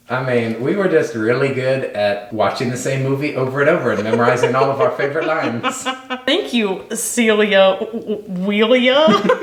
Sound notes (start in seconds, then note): 3.8 laughing